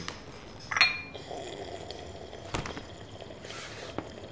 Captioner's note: slurps